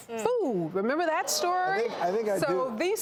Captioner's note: audience gasps